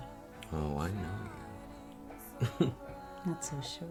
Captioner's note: chuckling